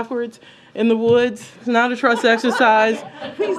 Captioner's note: laughter